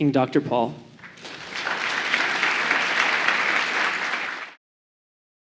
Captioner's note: applause